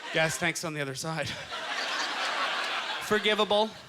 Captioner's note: audience laughter